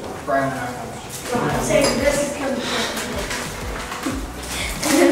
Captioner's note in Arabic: ثرثرة غير واضحة